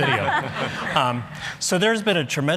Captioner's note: laughter